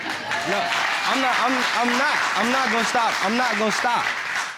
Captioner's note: audience applauding